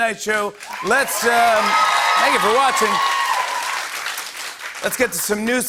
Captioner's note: cheers and applause